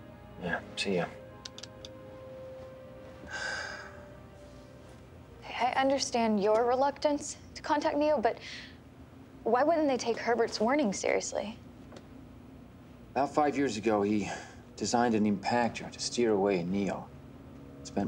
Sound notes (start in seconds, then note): 3.2 sighs